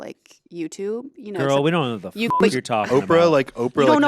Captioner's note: beep